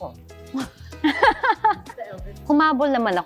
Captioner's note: laughs